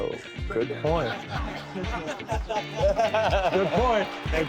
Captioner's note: laughing